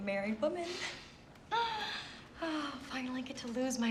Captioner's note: sighs